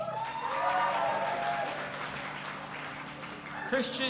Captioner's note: audience applauding and cheering